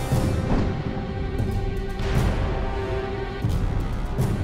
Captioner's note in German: Kanonenschüsse; Explosionen